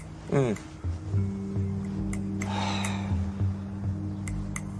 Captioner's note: sighs